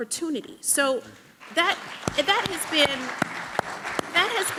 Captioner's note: people clapping